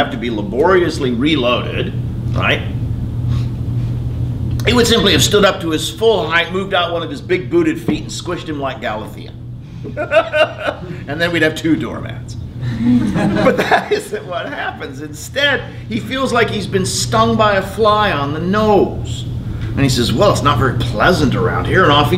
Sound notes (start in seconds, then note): 9.8 laughs; 12.7 laughter